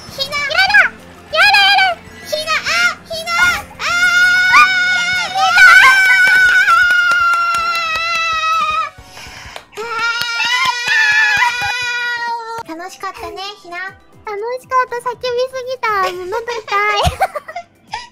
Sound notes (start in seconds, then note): 5.7 clapping hands; 15.6 laughing